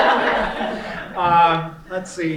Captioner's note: laughing